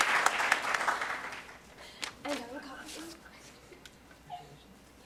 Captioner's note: applause